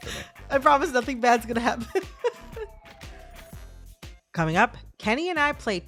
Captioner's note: laughter